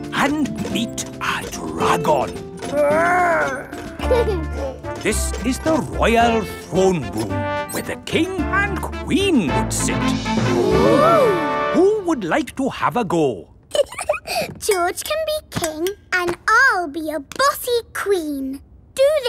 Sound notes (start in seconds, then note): 2.8 giggles; 13.7 giggles